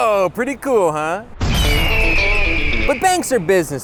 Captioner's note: explosion, bird screech